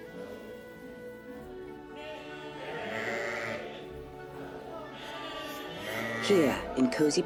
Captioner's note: sheep Bleating